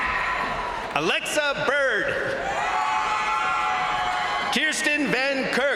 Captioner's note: crowd cheering